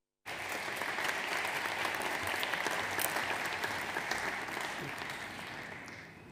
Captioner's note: audience applauds